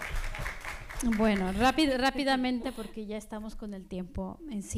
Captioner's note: speaking spanish